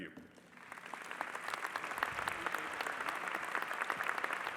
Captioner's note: audience applauding